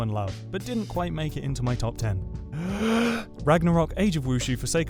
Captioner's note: deep breath